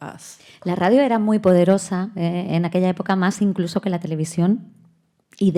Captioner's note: speaking in Spanish